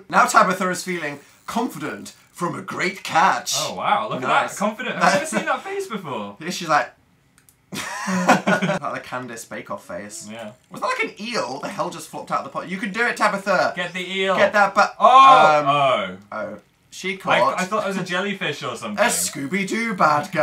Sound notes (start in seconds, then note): 7.7 giggles; 14.3 surprised shouts